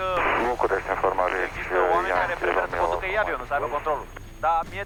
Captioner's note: radio chatter